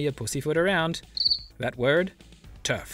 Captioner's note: cricket chirp